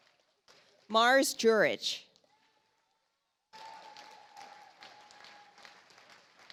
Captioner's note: audience applauds